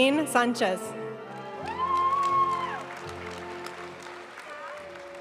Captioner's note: audience cheering and applauding; graduation music